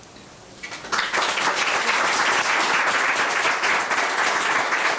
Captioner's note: members applauding